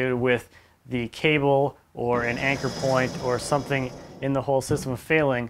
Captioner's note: engine whirring